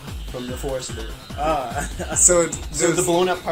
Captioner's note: chuckling